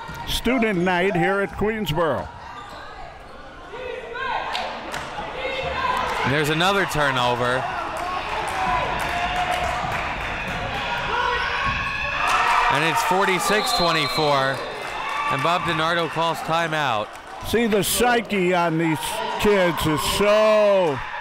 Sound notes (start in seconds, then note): 3.8 spectators chanting defense; 11.9 spectators cheering and applauding